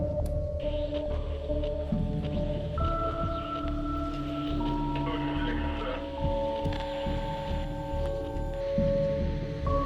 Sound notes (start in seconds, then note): 1.0 radio static hissing